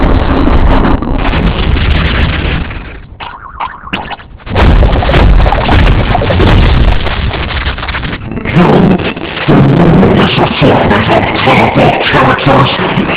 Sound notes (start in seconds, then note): 3.2 Gloink boinking softly